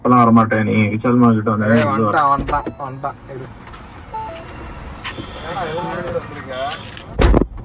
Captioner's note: Indication sound